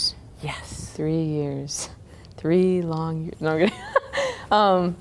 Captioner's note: laughter